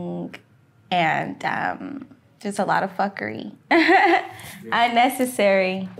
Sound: laughing

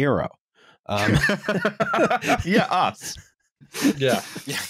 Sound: laughter

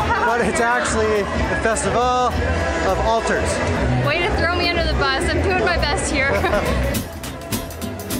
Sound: laughter

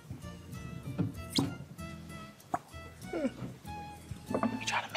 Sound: cork popping

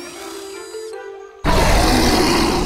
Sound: roaring

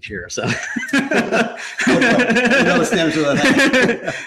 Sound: both laughing

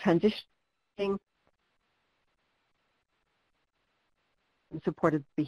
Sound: no audio

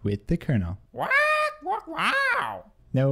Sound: squawking

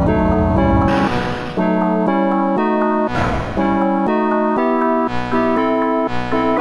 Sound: clang!

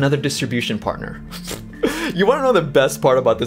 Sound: laughs

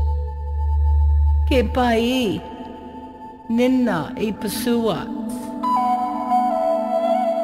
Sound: Blackfeet language spoken

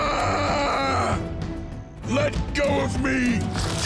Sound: screaming

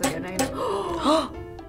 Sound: gasps

